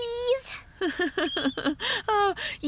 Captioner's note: chuckling